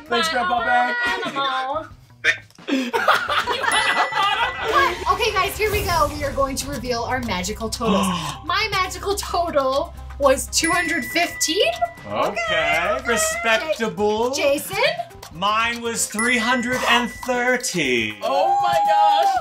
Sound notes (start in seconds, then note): 2.2 laughing; 3.7 ding; 7.8 gasps; 10.6 ding; 16.2 ding